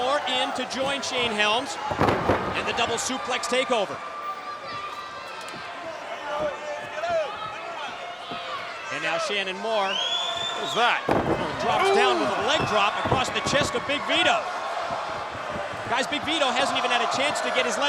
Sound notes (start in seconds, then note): 4.7 crowd chatter